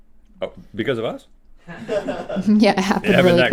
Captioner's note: crew laughing